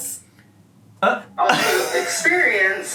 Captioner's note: laughs